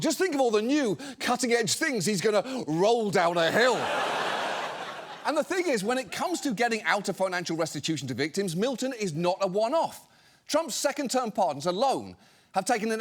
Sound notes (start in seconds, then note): 3.4 studio audience laughing